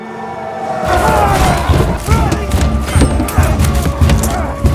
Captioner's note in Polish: odgłosy dynamicznej walki